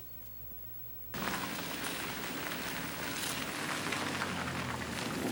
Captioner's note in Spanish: motor do carro acelerando